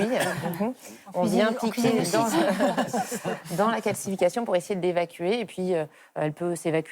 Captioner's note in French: rires